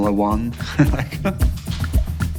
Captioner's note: laughs